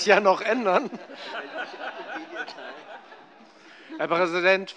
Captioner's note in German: Vereinzelte Heiterkeit